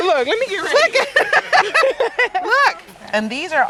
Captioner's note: laughing